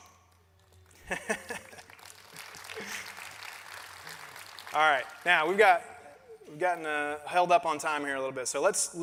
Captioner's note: applause